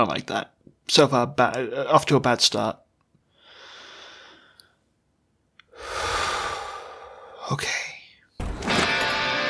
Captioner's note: deep breath